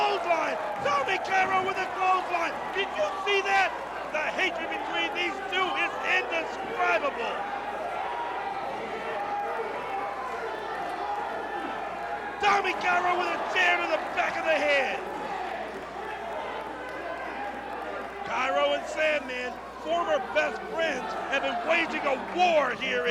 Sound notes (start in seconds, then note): 14.2 crowd cheering